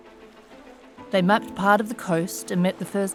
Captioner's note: waves gently splashing